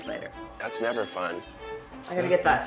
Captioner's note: cell phone rings